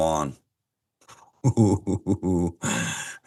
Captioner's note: laughs